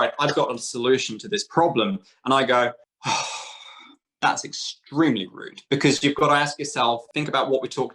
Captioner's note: sigh